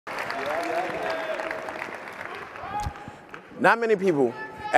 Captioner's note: attendees applauding